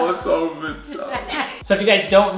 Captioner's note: laughing